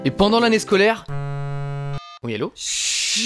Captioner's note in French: Bzzzz !